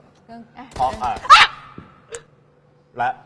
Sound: screaming!

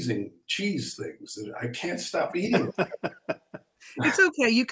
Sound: laughing

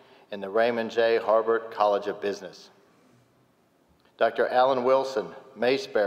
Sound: none

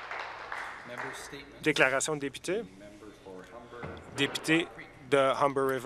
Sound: applause

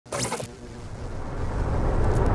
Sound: static whirring

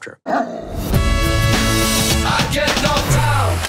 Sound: dog growling

